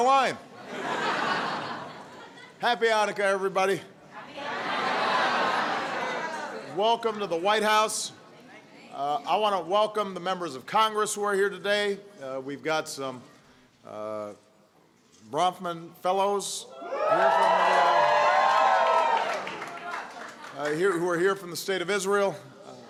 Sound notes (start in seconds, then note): 0.6 laughter; 17.0 applause